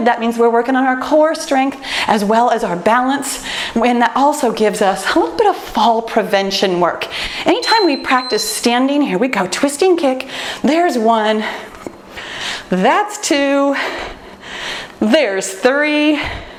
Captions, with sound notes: that means we're working on our core strength as well as our balance and that also gives us a little bit of fall prevention work. (timer beeps) Anytime we practice standing, here we go, Twisting Kick, there's one, that's two, there's three,